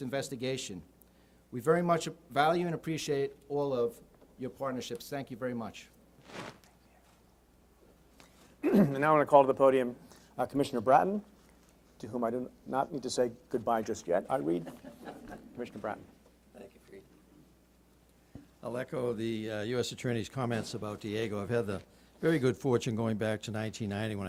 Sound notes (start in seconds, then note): 8.6 clears throat; 14.6 laughing